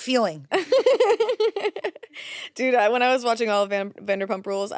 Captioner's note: laughs